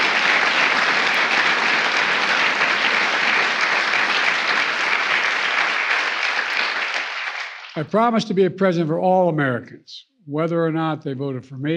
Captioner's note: applause